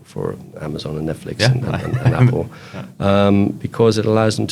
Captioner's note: laughs